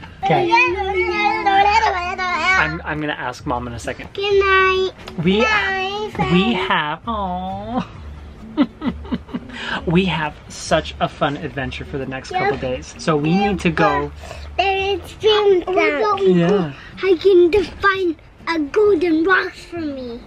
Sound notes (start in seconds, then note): 8.4 chuckles; 13.8 vocalizing